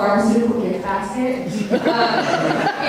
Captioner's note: audience laughter